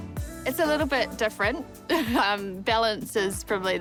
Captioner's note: laughs